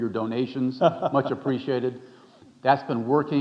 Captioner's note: chuckling